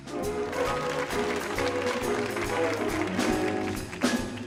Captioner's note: audience applauding